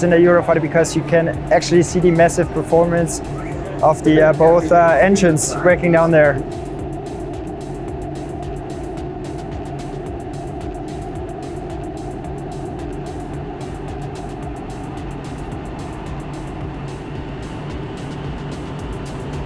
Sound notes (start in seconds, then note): 6.9 energetic music; 6.9 engine droning